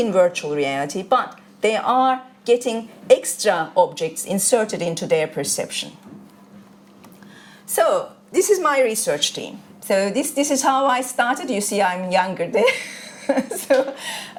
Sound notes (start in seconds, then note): 12.7 chuckles